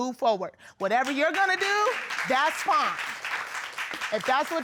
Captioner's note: audience applauding